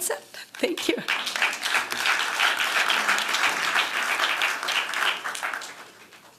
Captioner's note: applause